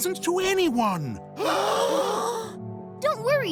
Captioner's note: gasping